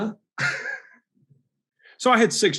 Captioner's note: Alex laughs